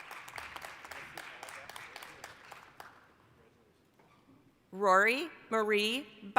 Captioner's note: applause